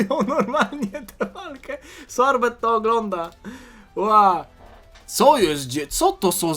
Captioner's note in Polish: śmiech